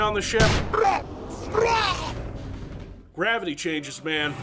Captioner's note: Tommy vomits